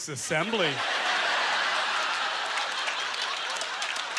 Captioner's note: audience laughter